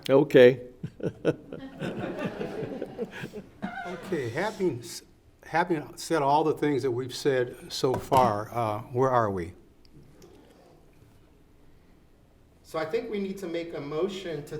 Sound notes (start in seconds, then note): 0.8 laughs; 0.8 everyone laughs